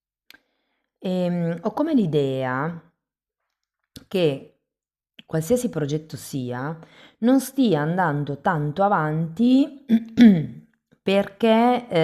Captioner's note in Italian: schiarire la voce